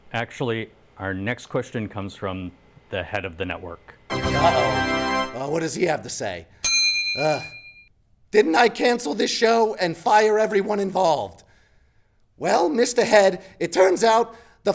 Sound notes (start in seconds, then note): 4.1 fanfare; 6.6 bell dings